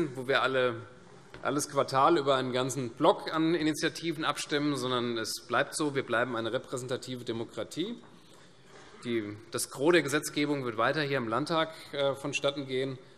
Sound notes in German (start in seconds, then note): none